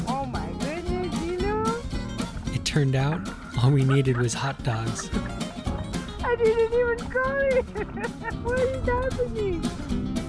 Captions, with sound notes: Oh my goodness, Zilou! It turned out all we needed was hot dogs! [Laughter] I didn't even call him! What is happening?